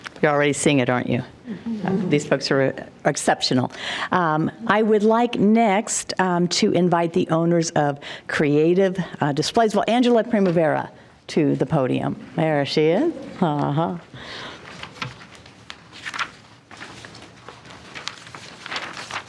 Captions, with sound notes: - You're already seeing it, aren't you? These folks are exceptional. I would like next to invite the owners of Creative Displays. Well, Angela Primavera to the podium. There she is. (paper rustling)